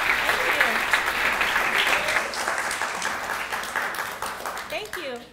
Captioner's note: clapping